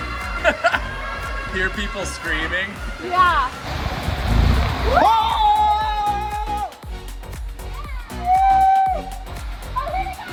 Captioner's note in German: Applaus